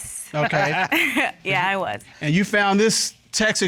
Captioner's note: chuckles